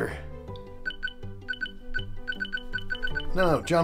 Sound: beep-beep beep-beep beep-beep-beep-beep

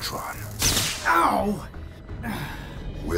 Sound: loud zap

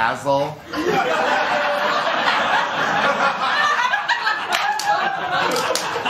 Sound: laughter

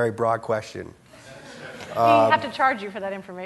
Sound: audience laughing

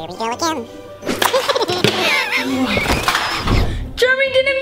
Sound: crashes

